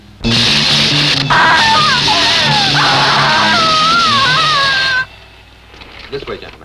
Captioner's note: electric fizzling; screaming